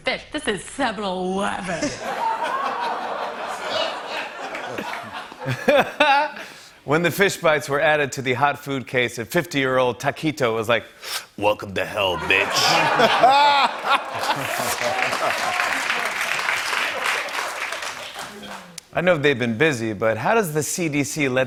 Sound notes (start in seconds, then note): 1.7 laughter; 12.1 laughter and applause